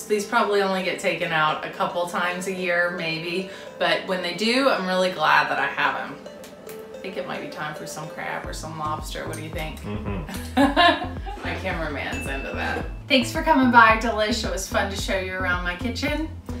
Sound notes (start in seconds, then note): 10.0 Katie laughs